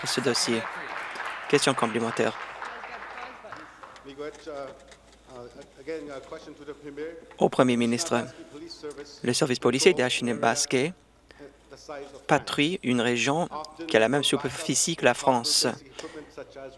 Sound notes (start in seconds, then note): 3.2 some Applause